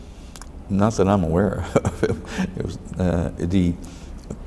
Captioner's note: laughs